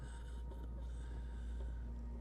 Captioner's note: gasping